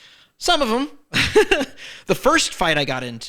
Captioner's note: laughs